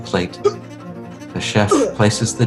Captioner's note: chef vomiting